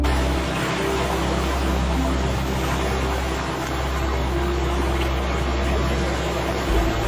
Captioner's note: gentle music; waves splashing